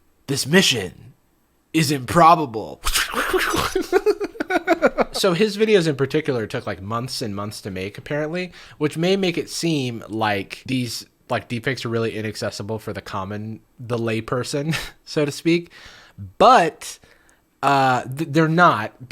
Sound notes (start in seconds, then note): 2.8 imitates swooshing; 3.0 laughs